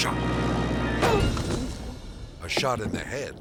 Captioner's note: reporter grunts